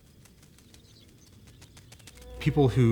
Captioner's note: wings flapping